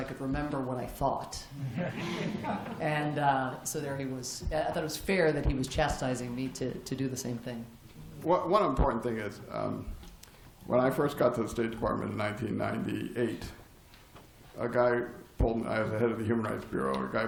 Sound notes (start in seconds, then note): 1.6 laughter